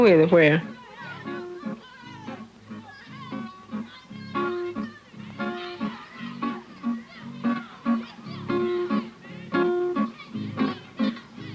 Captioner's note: children playing and shouting